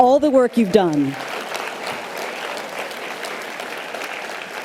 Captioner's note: audience applause